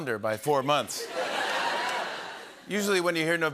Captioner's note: laughter